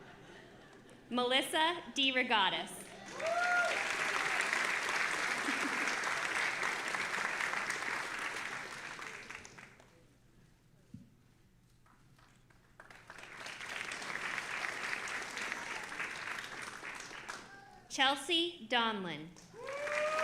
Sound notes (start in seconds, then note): 2.9 audience applauding and cheering